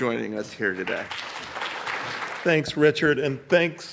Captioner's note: audience clapping